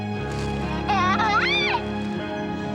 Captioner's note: laughs